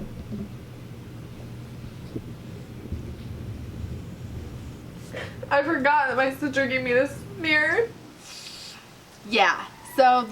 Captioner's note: crying